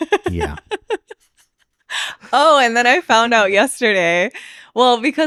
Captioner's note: laughing